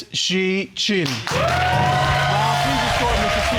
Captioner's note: audience applauding